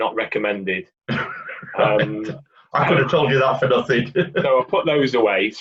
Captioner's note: chuckles